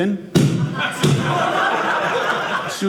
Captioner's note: audience laughing